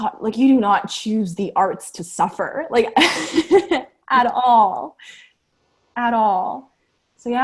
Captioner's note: laughter